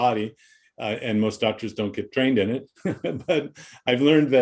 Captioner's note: laughs